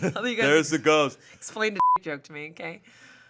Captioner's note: beep